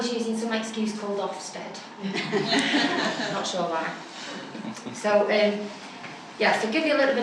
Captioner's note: laughter